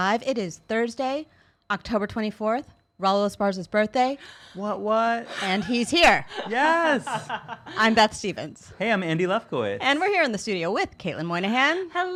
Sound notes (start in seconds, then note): 6.3 laughing